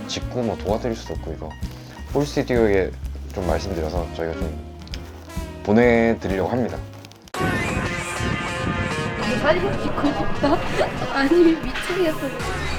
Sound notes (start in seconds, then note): 10.0 holding his giggles